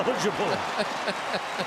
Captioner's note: cheering; laughter